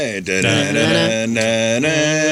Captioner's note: humming